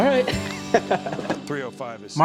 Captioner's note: laughs